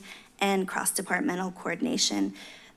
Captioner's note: none